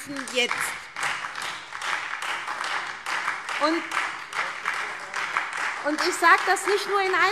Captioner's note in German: Beifall SPD und Freie Demokraten